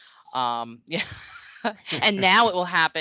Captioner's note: laughing